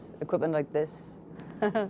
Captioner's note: laughter